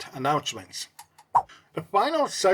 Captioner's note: swipe Sound